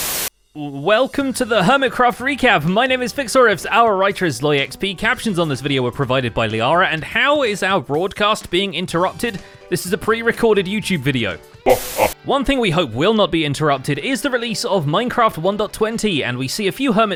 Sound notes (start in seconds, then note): 0.0 TV Static; 11.6 Evil Xisuma laughs evilly; 11.6 TV Static